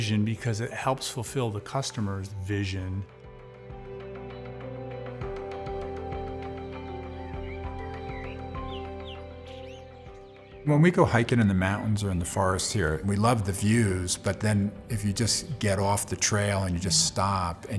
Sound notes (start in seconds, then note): 3.1 gentle music; 7.3 birds chirping